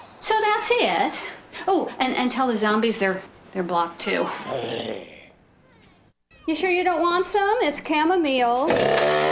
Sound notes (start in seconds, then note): 4.2 grumbles